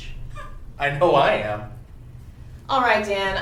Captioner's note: laughs